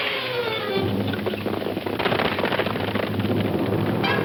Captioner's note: horse hooves clomping; guns firing; suspenseful orchestral music